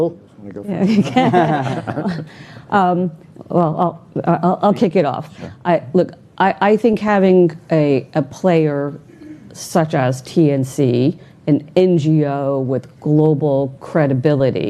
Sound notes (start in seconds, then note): 0.8 all laughing